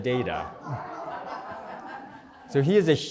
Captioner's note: laughter